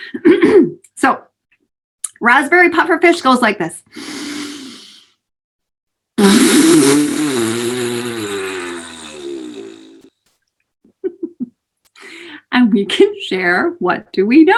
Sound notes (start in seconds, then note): 7.7 deep Inhale; 7.7 exhales, blows raspberry